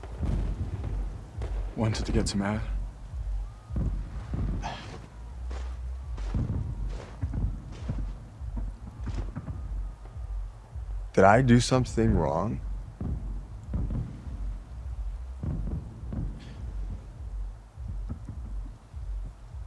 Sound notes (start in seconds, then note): 3.9 fireworks popping; 4.5 Alex sighs